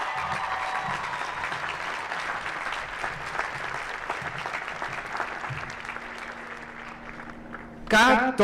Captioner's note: applause